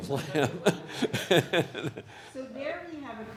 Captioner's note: everyone laughs